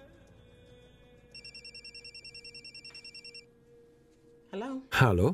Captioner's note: phone ringing